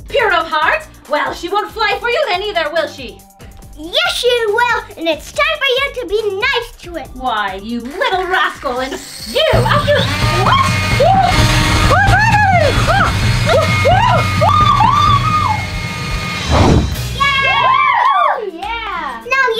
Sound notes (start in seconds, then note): 9.3 pixie whirs; 14.3 Queen screams; 17.3 all cheer